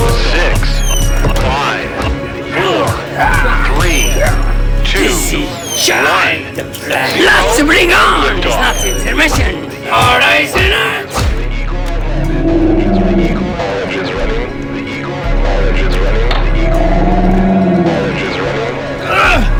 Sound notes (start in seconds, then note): 3.7 foot smacking; 10.7 intense music; 15.3 intense music; 15.3 radio chatter; 19.1 Martin grunting